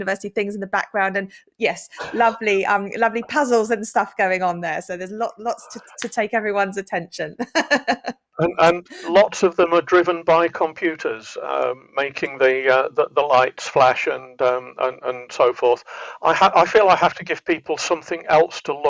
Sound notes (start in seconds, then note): 7.4 laughs